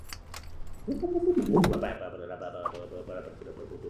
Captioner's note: not quite mechanical sounds of engine starting